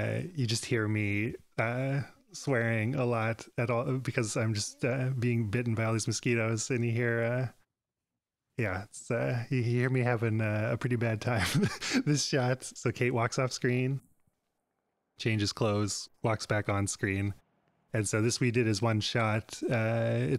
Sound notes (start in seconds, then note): 11.4 laughs